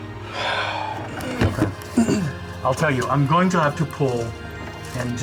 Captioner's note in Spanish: Suspiro